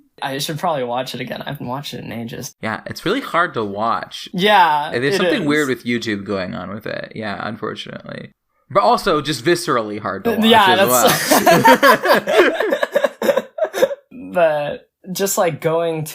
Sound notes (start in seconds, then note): 13.4 both laugh